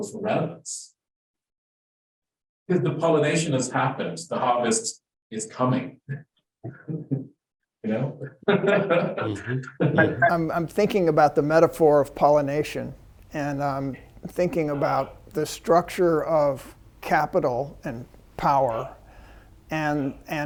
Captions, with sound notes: for relevance, 'cause the pollination has happened, the harvest is coming, you know? (laughs) - I'm thinking about the metaphor of pollination and thinking about the structure of capital and power